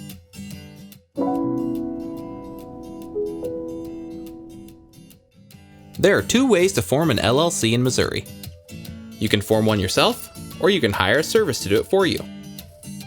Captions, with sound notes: (upbeat music) (bell chimes) There are two ways to form an LLC in Missouri. You can form one yourself, or you can hire a service to do it for you.